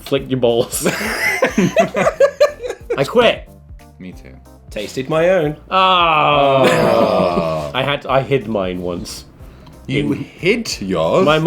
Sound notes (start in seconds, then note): 0.7 laughing; 6.3 laughing